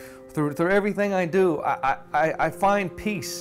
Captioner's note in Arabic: none